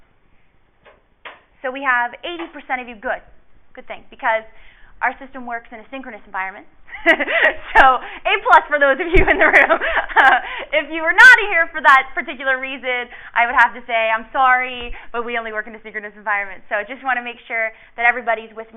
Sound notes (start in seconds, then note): 9.1 laughs